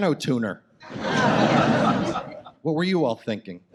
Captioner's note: audience laughs